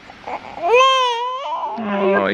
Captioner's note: cries